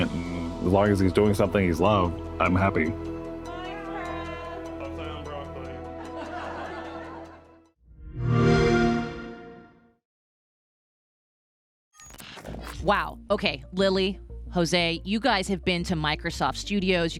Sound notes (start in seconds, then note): 5.9 laughter; 8.1 xbox sound